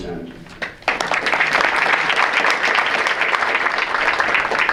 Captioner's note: audience applauds